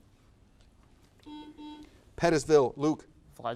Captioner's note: buzzer buzzes